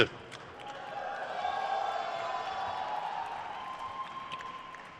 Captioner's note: crowd cheers